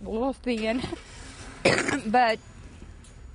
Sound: cough

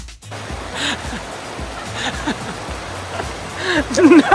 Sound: laughing

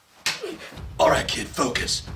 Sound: hands clap

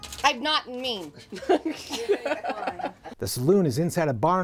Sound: laughter

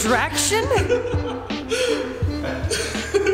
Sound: laugh

